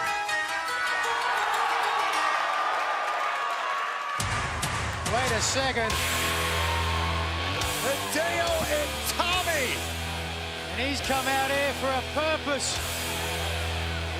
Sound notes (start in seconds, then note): 0.2 cheers and applause